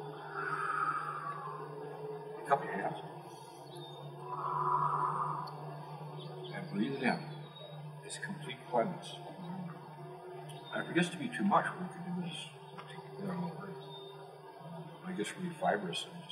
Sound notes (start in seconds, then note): 0.3 exhale; 4.0 inhale; 4.3 exhale